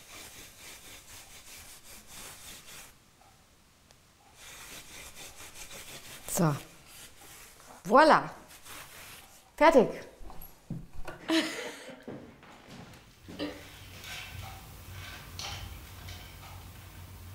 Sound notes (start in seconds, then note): 11.2 she laughs; 14.9 rustling, soft clattering